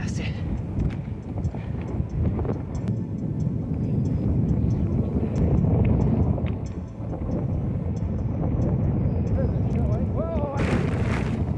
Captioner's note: low rumbling